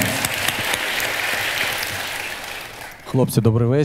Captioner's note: the audience cheers